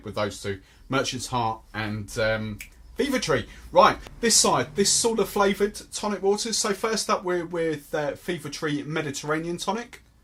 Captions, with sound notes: with those two, Merchant's Heart and (snaps fingers) Fever-Tree. This side, these sort of, flavoured tonic waters, so first up we're with Fever-Free Mediterranean tonic.